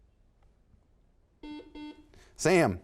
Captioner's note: buzzer sounds